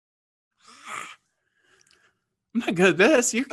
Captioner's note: sighs